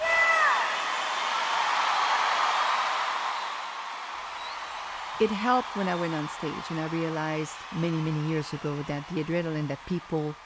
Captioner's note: cheers and Applause